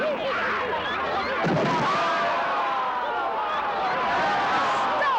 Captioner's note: roars and cheers